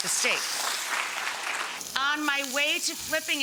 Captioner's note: audience applauds